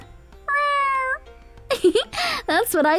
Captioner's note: meowing; giggles